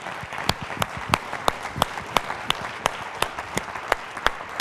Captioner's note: applause